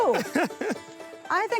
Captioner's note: laughs